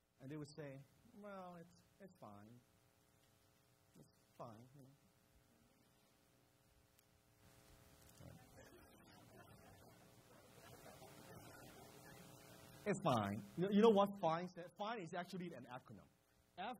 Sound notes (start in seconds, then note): 5.6 crowd laughs